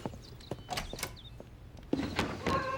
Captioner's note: door opens; rustling